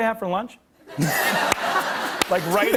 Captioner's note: laughter